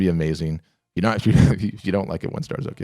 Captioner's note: laughing